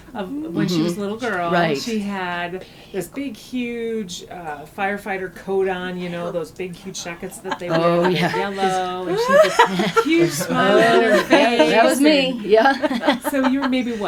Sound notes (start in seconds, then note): 11.8 laughter